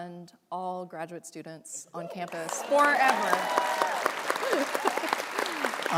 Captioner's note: applause